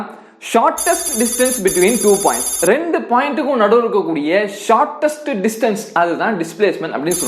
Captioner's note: repeating in Tamil